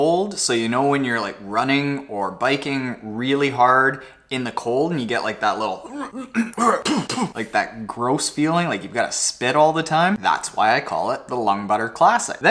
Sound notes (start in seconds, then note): 5.8 clears throat